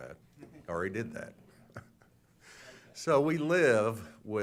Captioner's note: laughter